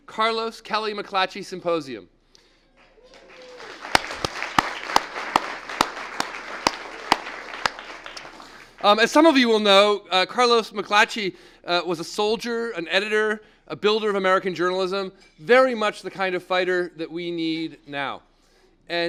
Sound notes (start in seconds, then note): 6.5 applause